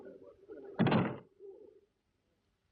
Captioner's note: door closes